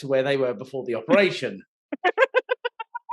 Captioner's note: laughing